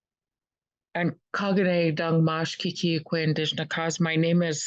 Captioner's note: speaking in Native language